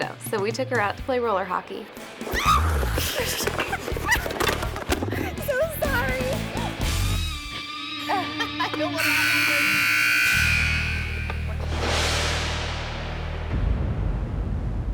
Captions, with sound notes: so we took her out to play roller hockey. (girls laughing) - So sorry. (arena buzzer blaring) (ominous music)